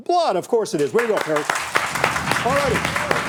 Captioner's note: audience applauding